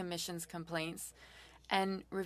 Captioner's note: speaking French